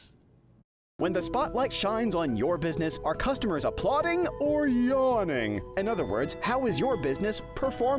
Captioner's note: voiceover